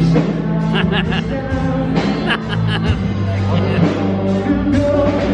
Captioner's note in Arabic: أبي يضحك